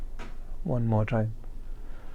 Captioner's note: exhales